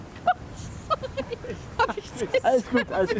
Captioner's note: she laughs, startled